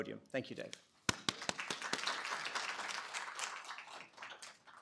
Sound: applause

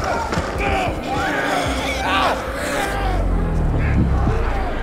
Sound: zombies growling

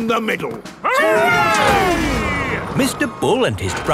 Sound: all cheering

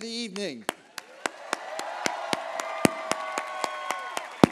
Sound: applause

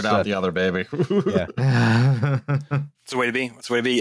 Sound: laughs

